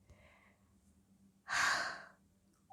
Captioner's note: sigh of wonder